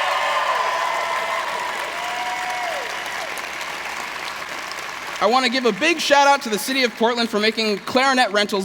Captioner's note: cheers; applause